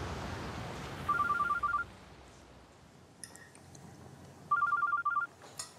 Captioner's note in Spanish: suena el celular